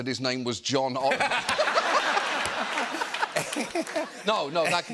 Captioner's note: laughter